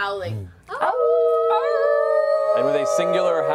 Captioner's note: howling